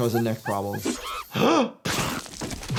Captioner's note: doctor gasps